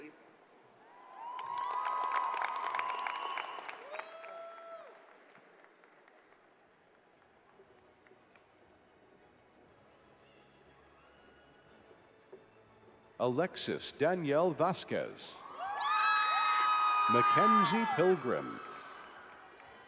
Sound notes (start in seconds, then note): 5.9 applause